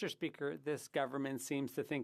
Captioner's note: speaking French